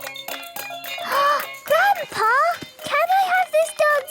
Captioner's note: upbeat music; gasps